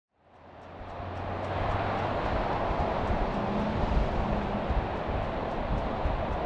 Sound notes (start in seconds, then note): 0.1 ambient traffic noise